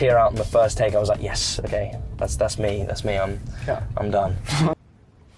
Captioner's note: laughs